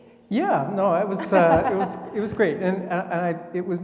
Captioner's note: laughing